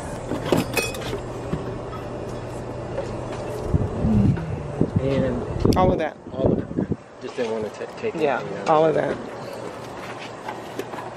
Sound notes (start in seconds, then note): 0.1 fixtures and boxes rustling; 3.6 wind rumbling